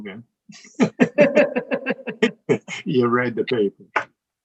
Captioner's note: all laughing